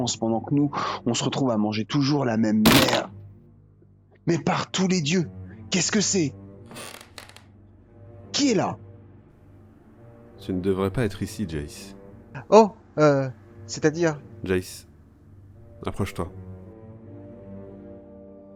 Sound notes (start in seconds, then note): 2.9 crackling; 6.7 squeak